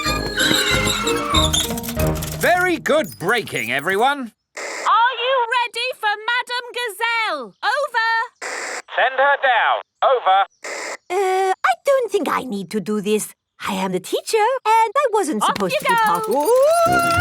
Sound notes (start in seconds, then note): 0.0 giggling and ringing bells; 0.0 tires screech; 8.4 walkie-talkie crackles